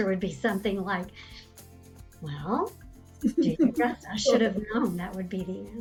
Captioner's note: laughing